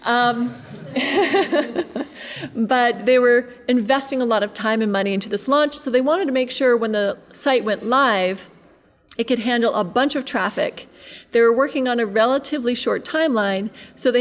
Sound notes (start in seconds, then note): 0.4 laughing; 0.4 audience laughing